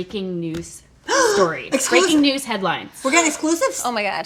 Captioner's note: gasping